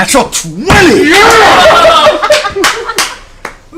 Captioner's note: cheering